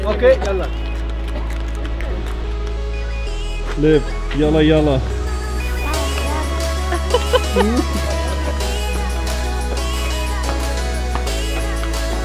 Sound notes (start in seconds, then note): 2.0 ambient music; 5.8 laughing; 8.3 ambient music